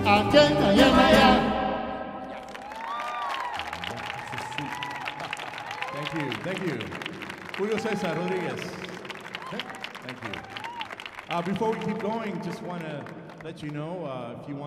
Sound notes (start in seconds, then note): 2.7 audience applauding